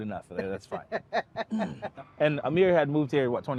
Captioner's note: laughing